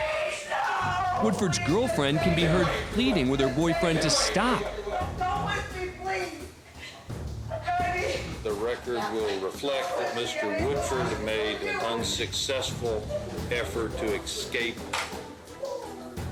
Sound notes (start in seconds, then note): 4.6 crying